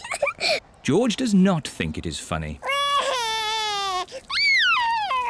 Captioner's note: giggles; cries